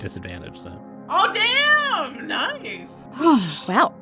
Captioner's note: exhales